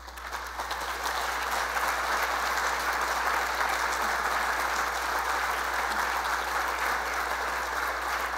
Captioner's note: applause